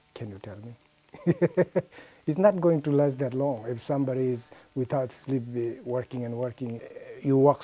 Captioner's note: laughs